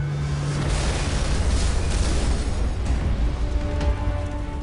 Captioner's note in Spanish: Explosión